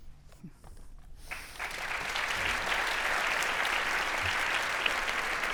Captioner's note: audience applauding